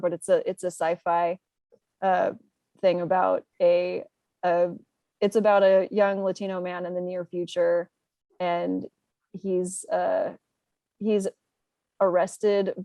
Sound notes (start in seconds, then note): none